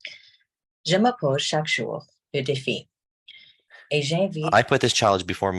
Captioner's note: speaking French